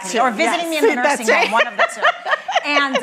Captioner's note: laughing